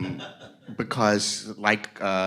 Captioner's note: audience laughs